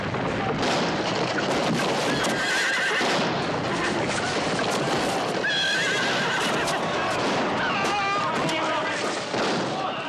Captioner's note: sounds of horses, gunshots and crashing